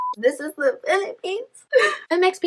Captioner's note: Gasps in Filipino Pride